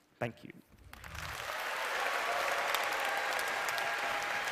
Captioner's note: applause